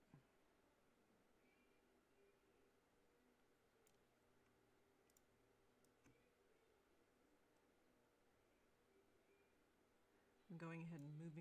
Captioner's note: mouse and keyboard clicking